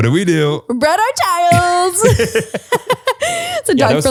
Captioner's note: both laugh